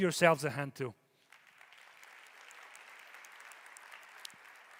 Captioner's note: audience applauding